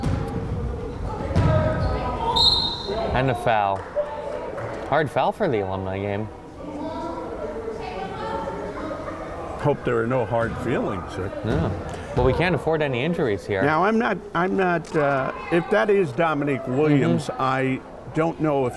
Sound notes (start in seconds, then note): 2.3 whistle